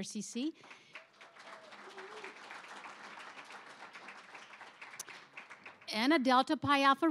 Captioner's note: applause